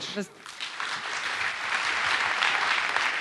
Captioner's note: applause